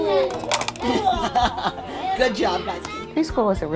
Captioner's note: teacher laughs